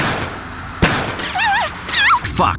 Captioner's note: scream 1